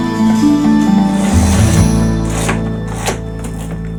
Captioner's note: blinds zipping